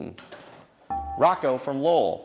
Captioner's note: dinging